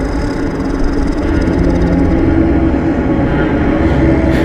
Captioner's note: demonic growl